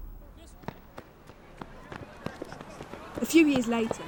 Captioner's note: the ambience of a schoolyard, and running footsteps, fades in